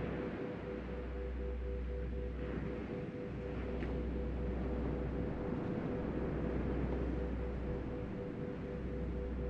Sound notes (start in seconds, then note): 1.9 soft music; 1.9 waves breaking distantly